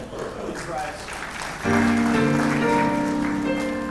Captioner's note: applause